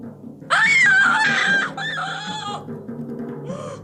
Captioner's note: a woman's cry